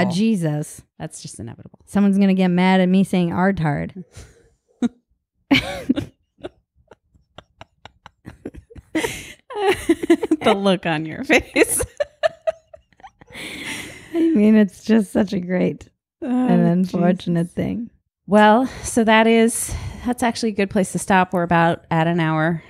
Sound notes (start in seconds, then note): 5.5 both laugh